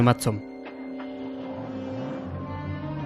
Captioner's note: engine starting